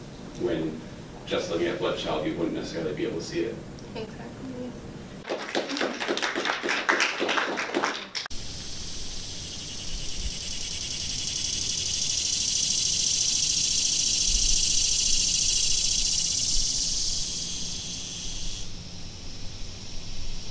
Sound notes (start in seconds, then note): 5.2 clapping; 8.2 cicada buzzing sound